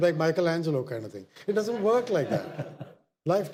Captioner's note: audience laughter